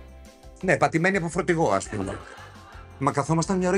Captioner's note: laughs